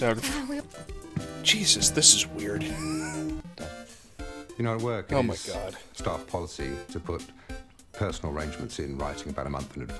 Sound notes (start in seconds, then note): 3.0 wheeze